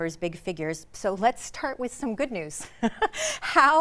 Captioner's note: chuckles